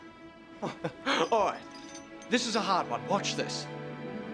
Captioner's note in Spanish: risas